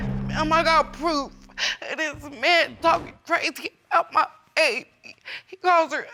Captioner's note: voice breaking